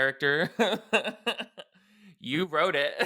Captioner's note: chuckles